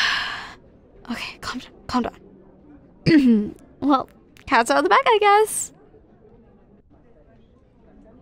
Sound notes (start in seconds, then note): 0.0 sigh; 0.0 whisper to self; 3.1 clears throat